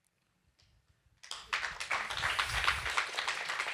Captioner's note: applause